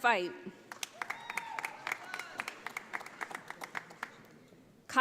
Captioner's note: audience applauding